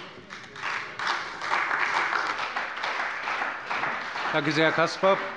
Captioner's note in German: Beifall bei der CDU und dem BÜNDNIS 90/DIE GRÜNEN